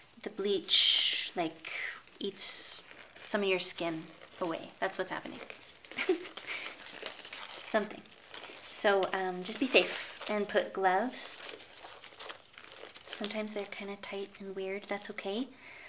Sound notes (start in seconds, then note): 5.9 chuckles